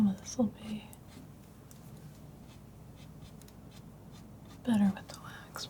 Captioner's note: silence